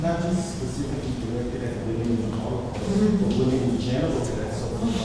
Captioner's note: muttering replies from audience